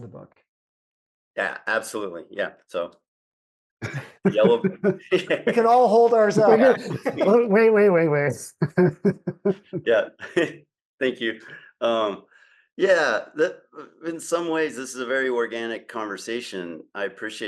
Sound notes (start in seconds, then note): 3.8 laughs; 9.5 laughs; 11.3 chuckles